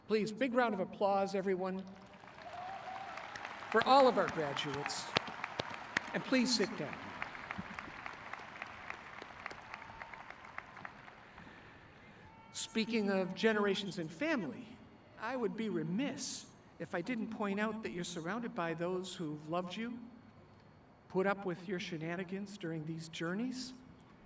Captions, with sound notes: Please, big round of applause everyone (crowd clapping) for all of our graduates. And please sit down. Speaking of generations and family, I would be remiss if I didn't point out that you're surrounded by those who've loved you, put up with your shenanigans during these journeys,